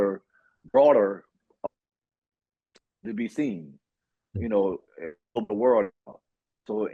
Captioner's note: audio out